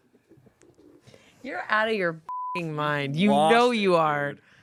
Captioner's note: beep